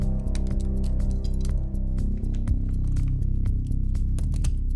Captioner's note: gun parts clicking